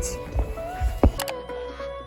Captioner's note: occasional mouse clicks